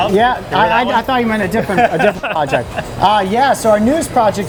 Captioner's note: laughing